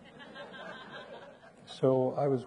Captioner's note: audience laughing